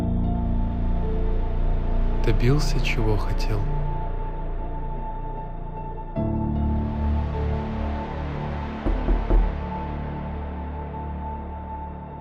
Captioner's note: knock on the door